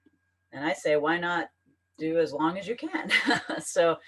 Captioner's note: laughs